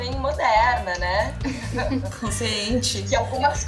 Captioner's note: laughs